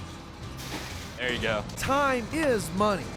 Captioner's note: splash